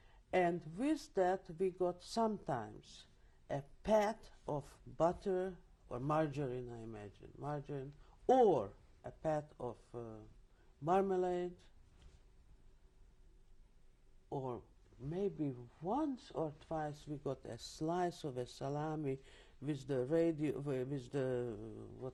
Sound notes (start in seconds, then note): 11.1 pauses for 3 seconds